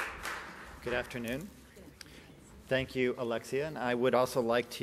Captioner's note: applause